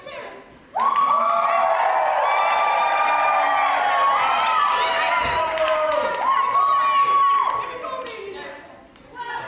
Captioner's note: audience cheers